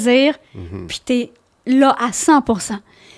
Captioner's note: in french